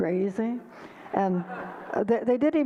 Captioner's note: audience laughter